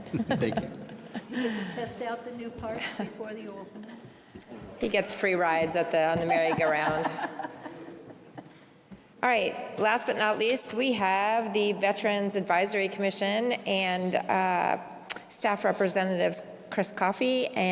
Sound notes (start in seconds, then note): 2.9 laughter